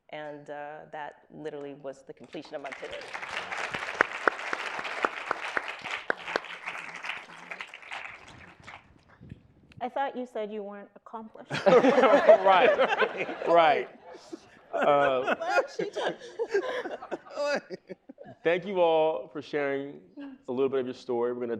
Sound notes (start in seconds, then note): 2.5 audience applauding; 11.5 panelists laughing